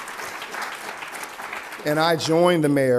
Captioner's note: applause